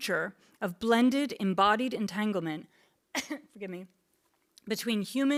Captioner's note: coughs